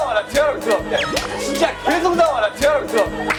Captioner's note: Bài hát cổ vũ phục hồi chức năng làm tất cả mọi người phá lên cười